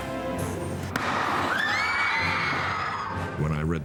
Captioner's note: screaming